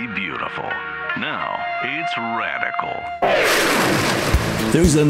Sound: woosh

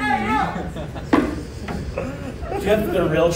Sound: fake trophy taps

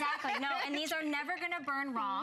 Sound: laughter

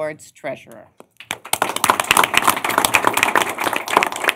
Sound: applause

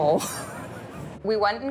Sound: laughing

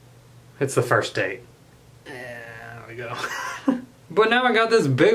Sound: laughs

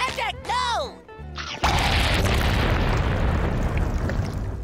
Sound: booming

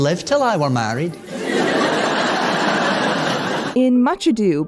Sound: laughter

